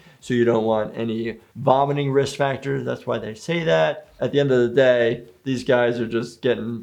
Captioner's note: none